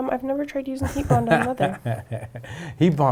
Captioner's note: laughing